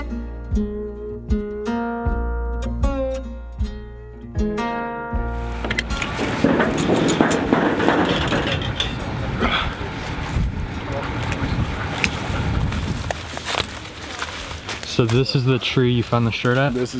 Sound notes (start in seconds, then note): 5.3 thumping noises; 12.9 leaves crunching underfoot